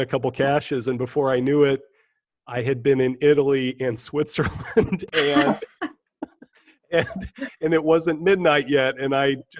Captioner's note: laughter